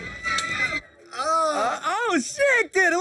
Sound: click

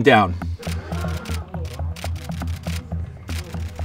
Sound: crowd gasps

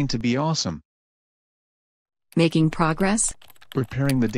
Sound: calmly

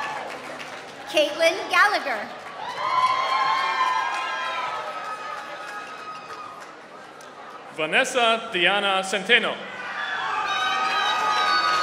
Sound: applause

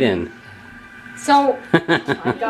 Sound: laughs

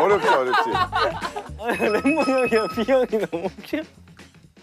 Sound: unable to control his laughter

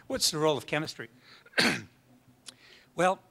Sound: coughs

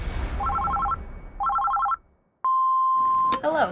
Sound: telephone ringing; voicemail beeping

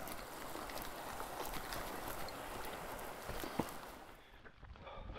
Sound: footsteps scuffing

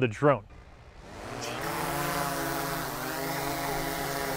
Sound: drone whirring

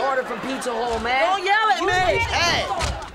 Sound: clamoring

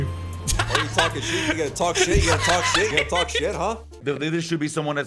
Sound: laughing

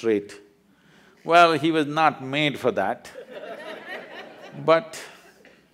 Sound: laughter

